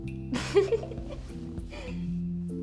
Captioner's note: laughs